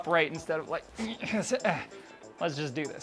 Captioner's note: groans